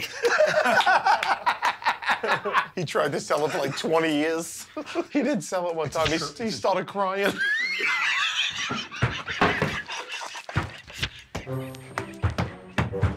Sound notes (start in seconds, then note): 0.0 laughter; 7.2 laughter